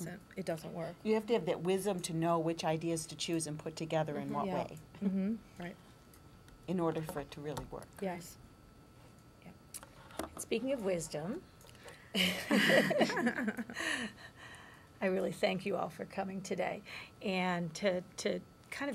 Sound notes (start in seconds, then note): 12.2 laughter